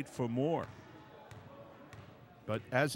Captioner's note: ball pounding